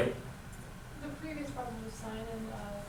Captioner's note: voiceover